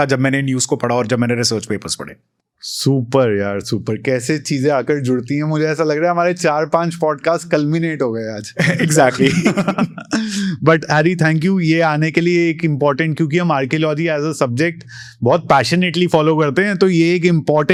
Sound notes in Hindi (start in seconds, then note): 8.5 हंसी